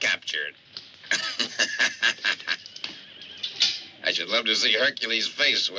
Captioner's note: laughs